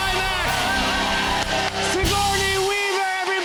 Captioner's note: cheers and applause